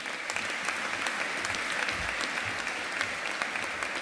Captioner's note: audience applauding